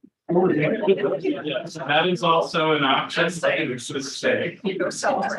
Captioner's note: laughs